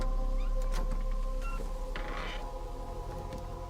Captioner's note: door creaking open